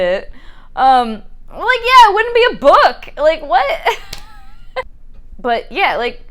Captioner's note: laughs